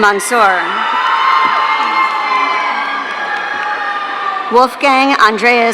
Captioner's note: audience cheering